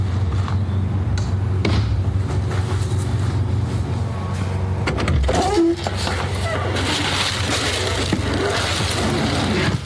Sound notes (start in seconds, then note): 5.0 car door screeches open; 7.3 heavy rustling